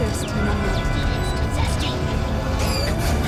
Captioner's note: battle droid glitching and repeating the word "zesty"